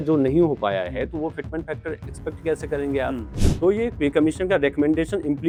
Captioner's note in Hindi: नाक से की जाने वाली आवाज़